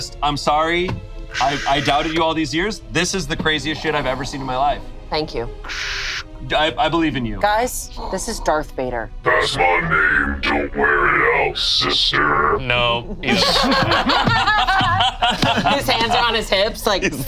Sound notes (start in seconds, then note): 12.7 group laughs